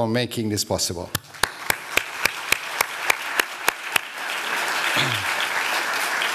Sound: applause

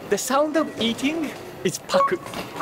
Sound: none

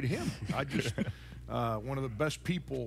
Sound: all laughing

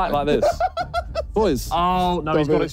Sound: group laughing

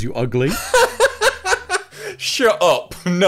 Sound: laughs

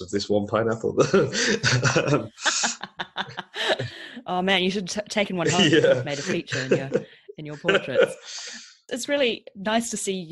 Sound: laughs

